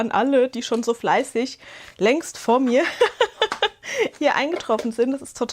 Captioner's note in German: Gelächter